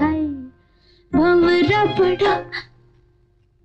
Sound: gasps

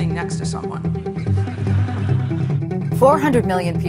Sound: laughs

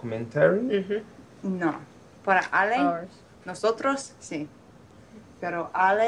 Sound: speaking in foreign language

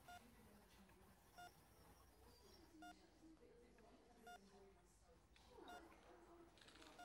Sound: monitor beeps

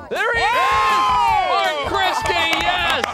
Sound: people cheering

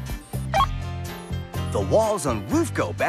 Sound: beep

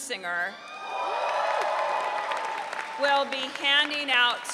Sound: audience cheering

